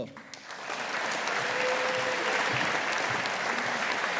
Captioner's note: audience applauding